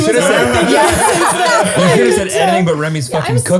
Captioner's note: all laughing and talking